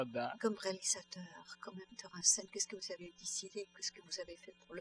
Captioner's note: speaking french